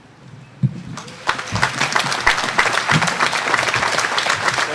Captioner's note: audience applauding